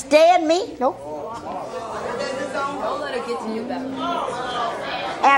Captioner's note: audience murmuring